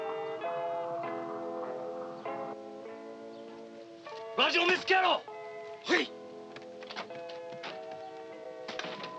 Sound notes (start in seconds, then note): 0.2 soft music; 4.4 shouting in Japanese